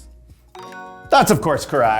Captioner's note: bell dinging